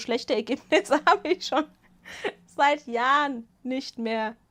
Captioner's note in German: Gelächter